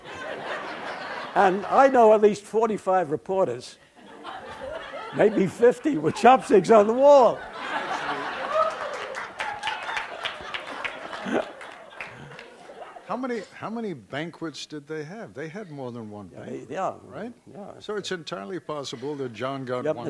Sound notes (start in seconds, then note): 0.1 background laughter; 7.7 background laughter; 8.4 applause